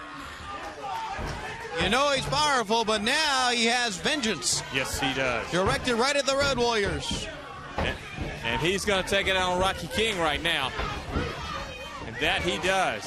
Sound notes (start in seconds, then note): 1.2 crowd chatter